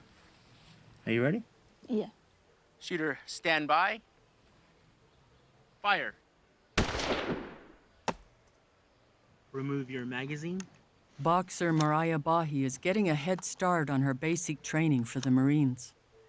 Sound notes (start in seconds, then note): 6.8 bullet hits target; 6.8 fires